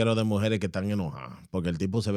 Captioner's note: speaking In Foreign Language